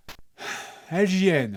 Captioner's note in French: Hmpf